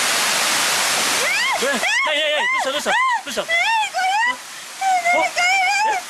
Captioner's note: scream